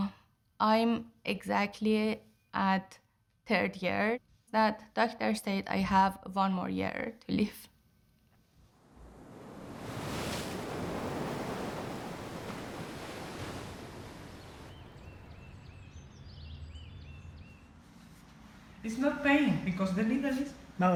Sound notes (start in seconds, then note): 8.7 waves crashing; 13.1 birds chirping